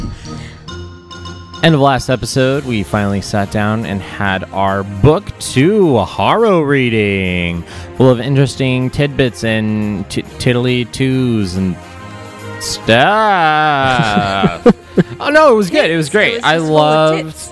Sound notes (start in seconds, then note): 13.0 laughs